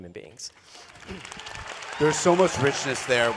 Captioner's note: applause